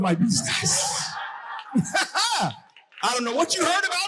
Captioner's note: audience crowing